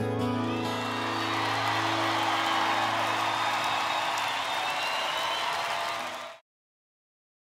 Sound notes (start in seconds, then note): 0.4 audience cheers